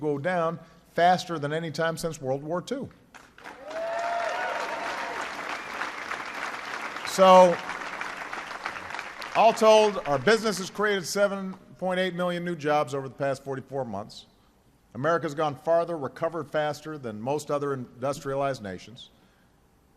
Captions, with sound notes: down faster than any time since World War II. (Applause.) So all told, our businesses created 7.8 million new jobs over the past 44 months. America has gone farther, recovered faster than most other industrialized nations.